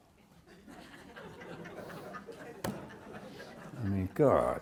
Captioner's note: audience laughs